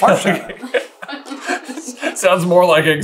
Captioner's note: laughter